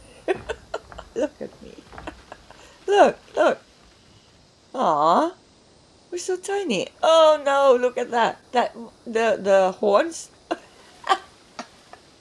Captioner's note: laughs